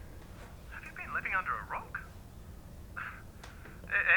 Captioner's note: laughing